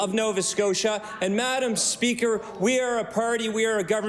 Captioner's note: cheering/Applause